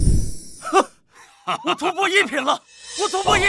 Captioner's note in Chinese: 哈哈哈